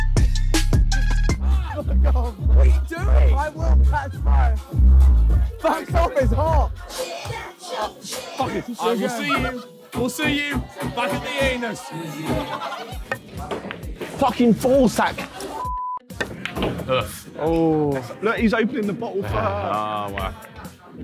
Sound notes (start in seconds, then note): 13.0 cue hitting ball; 16.1 cue hitting ball